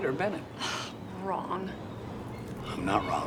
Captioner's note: sighs